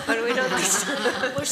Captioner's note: laughter